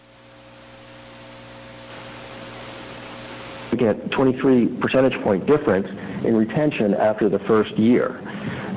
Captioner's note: audio cutting in/out